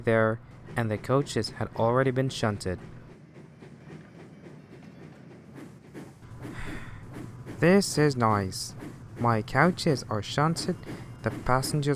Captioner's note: sigh